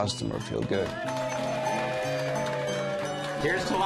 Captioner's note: cheers and applause